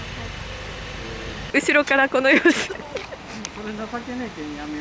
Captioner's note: laughter